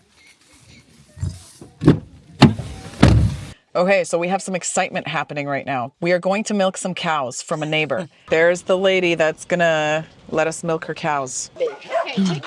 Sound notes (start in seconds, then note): 0.0 footsteps on gravel; 1.6 car door opening and closing